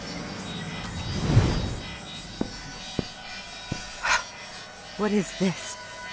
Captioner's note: the whoosh/thump of a super flying in, touching down